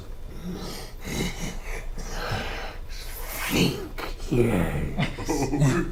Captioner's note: chuckles